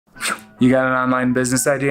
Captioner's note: whistles